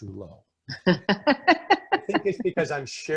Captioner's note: laughing